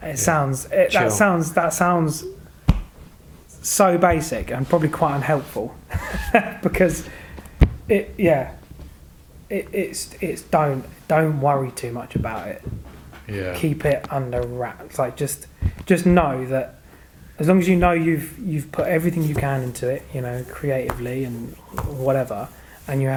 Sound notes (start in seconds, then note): 6.0 laughing